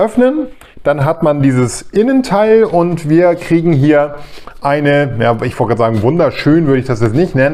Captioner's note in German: schnauben